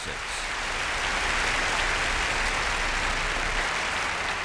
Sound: applause

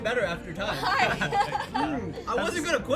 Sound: laughs; chuckles

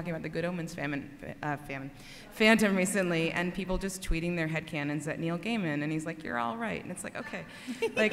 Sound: laughter

